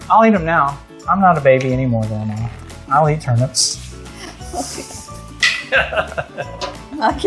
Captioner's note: both laugh